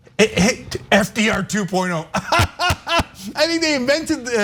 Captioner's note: laugh